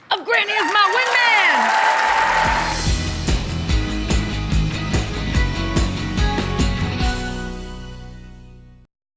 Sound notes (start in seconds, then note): 1.8 applause; 2.4 upbeat music